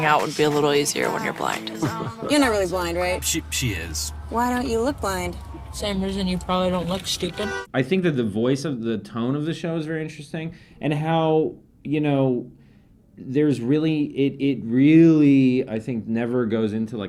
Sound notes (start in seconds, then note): 8.5 car honking